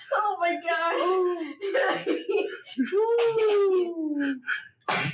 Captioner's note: lots of laughter